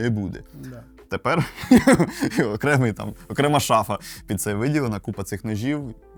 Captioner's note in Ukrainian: сміх